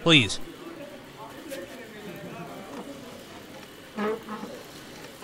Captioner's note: people bustling, chair scrape